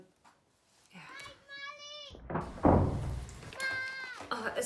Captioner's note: children fighting in another room